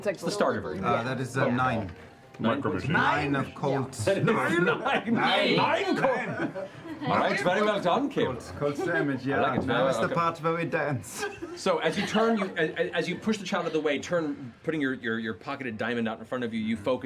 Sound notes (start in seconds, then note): 7.0 German accent; 8.9 thicker German accent